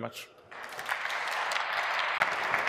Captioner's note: applause